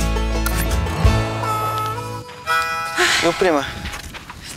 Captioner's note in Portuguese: Suspiro